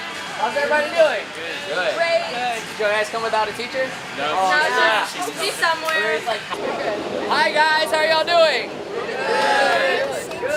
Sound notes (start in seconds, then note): 4.2 class chattering